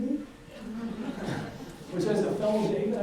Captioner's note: audience laughs